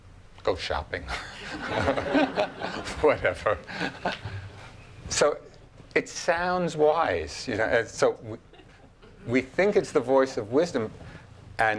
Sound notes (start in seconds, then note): 1.1 laughing